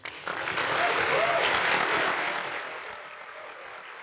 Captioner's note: audience applauding